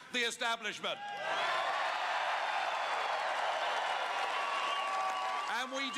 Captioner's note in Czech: Potlesk